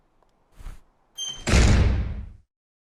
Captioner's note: door slam